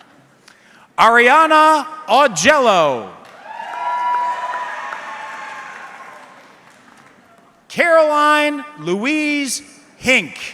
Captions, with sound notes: Ariana Augello. (audience clapping) Caroline Louise Hink.